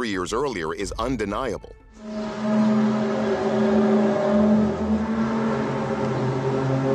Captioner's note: groaning sound